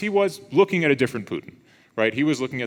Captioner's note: none